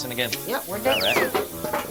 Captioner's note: slide whistle plays